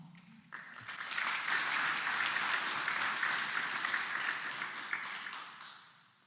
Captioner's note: applause